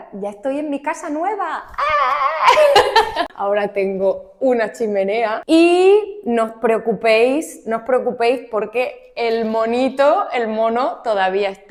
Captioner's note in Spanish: risas